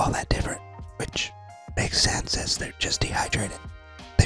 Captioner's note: whispering